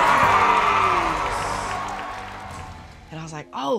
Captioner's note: crowd cheers